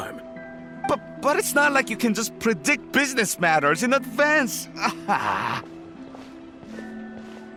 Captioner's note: sigh